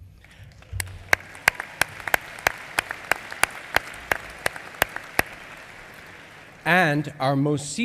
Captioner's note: applause